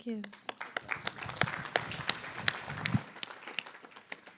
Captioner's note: applause